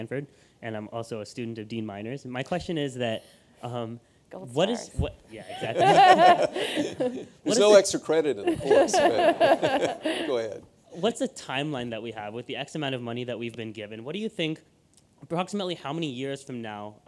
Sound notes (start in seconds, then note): 8.5 everyone laughing; 10.2 interviewer laughing